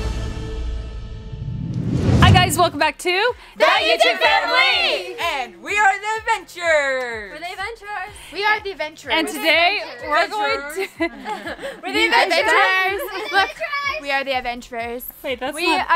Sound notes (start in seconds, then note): 3.7 in Unison